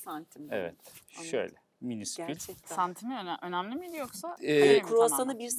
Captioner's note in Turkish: homurdanır